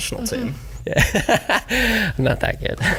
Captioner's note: laughs